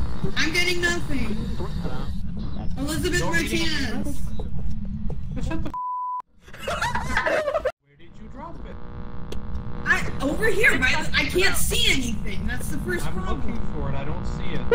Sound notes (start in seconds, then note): 6.5 cackle